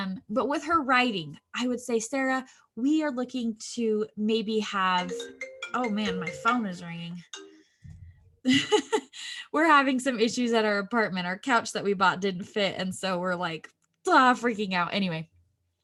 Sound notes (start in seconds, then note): 5.0 phone ringtone; 8.0 laughs